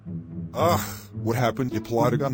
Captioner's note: groans